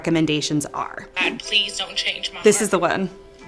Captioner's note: voiceover on TikTok